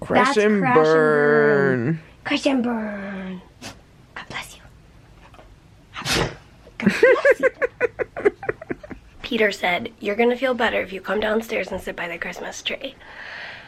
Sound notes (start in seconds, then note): 3.6 sneezes; 5.9 sneezes; 6.8 giggling